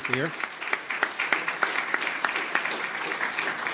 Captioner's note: audience applauds